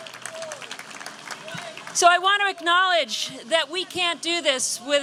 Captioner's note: applause